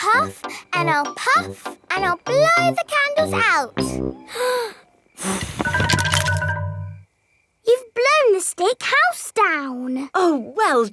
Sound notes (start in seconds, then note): 5.2 blowing